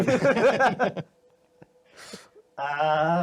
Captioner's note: laughing